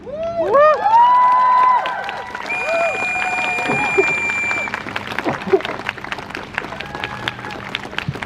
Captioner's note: crowd Cheers